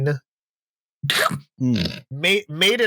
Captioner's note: incredulous non-verbal sounds